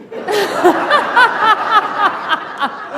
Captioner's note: laughter